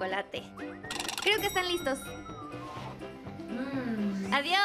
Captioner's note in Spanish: alarma sonando